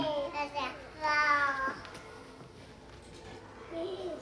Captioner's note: child babbling